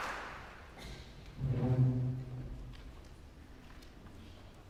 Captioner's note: stool scrapes